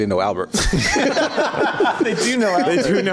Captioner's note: laughs